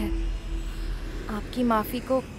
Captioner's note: Airplane engine swooshes